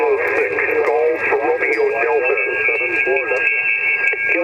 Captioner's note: radio static